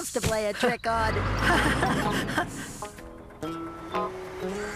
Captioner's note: laughing